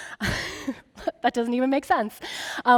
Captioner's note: laughing